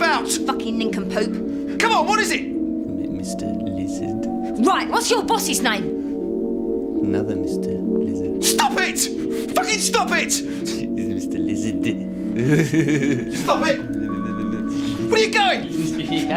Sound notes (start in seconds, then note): 10.4 laughs; 15.6 chuckling